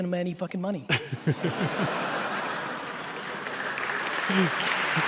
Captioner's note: laughing and cheering